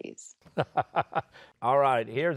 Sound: laughing

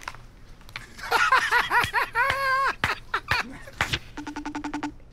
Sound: laughter; rapid beeping

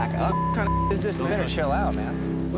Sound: beeping

